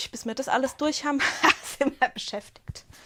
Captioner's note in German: Gelächter